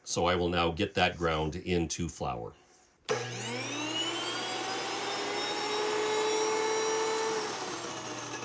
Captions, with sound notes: So I will now get that ground into flour. (whirring)